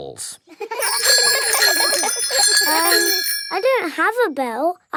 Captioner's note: giggling and ringing bells